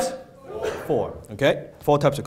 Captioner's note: audience responds